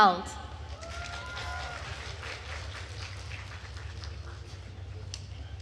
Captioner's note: attendees cheering and applauding